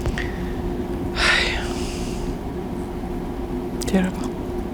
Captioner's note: sighing